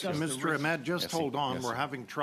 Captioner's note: speaking French